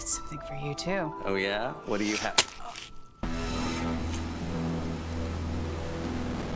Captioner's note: flesh squelching; dramatic music